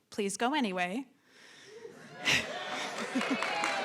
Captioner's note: laughs; cheering